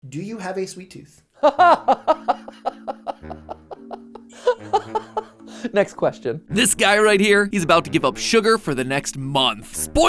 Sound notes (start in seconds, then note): 1.4 maniacal Laughter